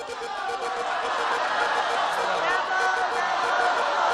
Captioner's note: cheering